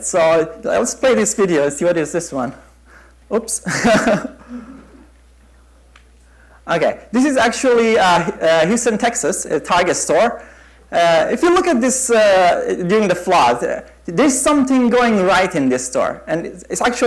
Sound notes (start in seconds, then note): 3.7 chuckle